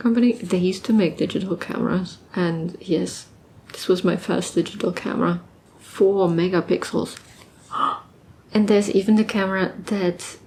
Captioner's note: gasps